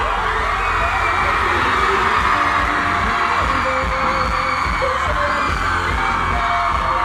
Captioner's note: crowd cheering; pop music